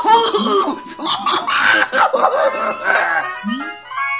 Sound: ecstatic Laughter

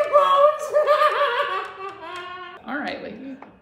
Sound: very unhinged laughter

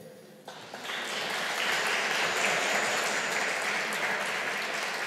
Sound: audience applauding

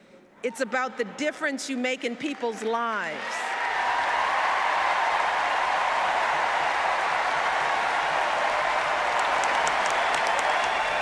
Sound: applause

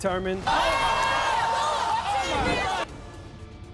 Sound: cheers

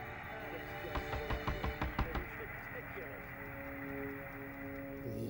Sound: dramatic string music; knocking

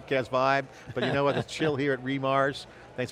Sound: laughs

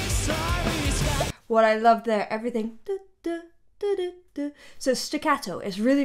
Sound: mimics music

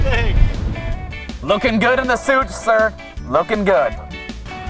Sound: voiceover

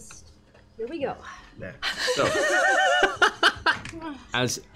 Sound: laughter

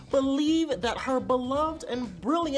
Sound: none

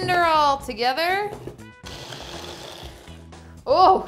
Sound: blender whirring

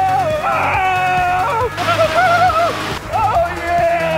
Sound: yelling

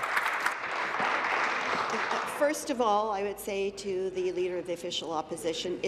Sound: applause

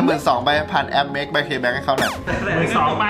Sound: radio

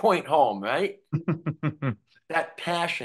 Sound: chuckling

